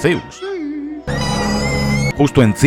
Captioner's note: screams in fear